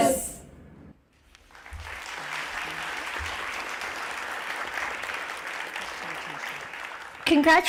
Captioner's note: applause